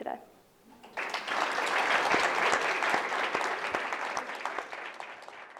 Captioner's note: audience applauds